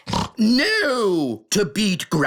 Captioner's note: snorts